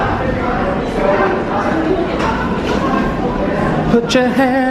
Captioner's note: crowd chattering